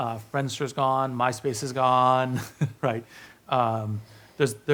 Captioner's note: laughs